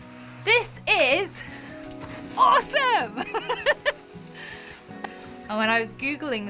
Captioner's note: laughs